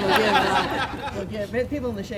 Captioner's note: laughing